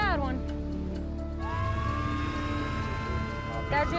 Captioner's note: sirens